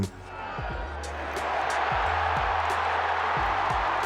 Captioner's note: cheering